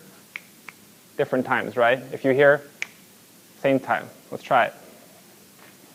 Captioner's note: finger snapping one time